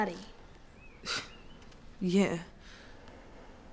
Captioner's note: scoffs